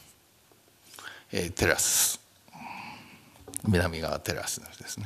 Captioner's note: speaking japanese